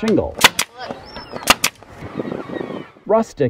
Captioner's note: sound of nail gun